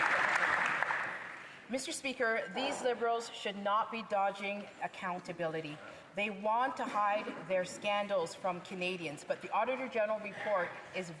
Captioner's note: some Applause